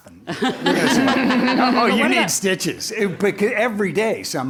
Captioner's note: laugh